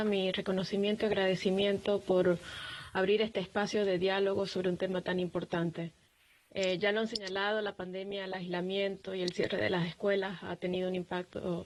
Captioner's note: spanish